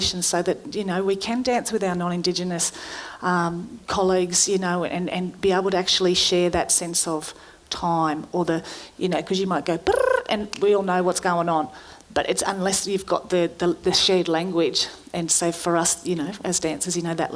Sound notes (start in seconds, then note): 9.8 trilling